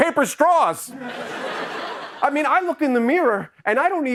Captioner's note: laughter